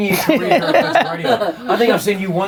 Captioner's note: everyone laughing